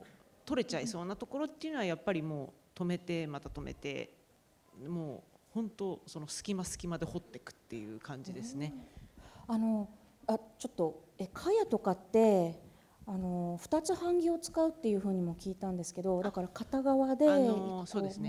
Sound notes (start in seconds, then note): 9.5 speaking japanese